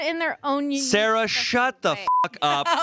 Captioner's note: beep